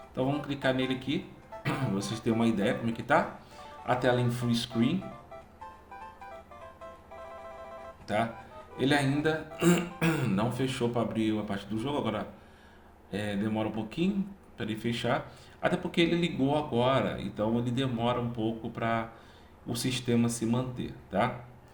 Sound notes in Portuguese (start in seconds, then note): 9.6 limpando a garganta